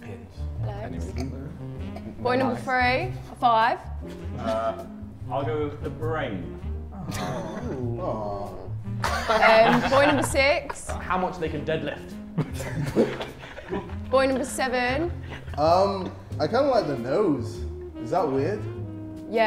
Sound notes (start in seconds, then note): 7.0 Sidemen sob; 12.2 Sidemen laugh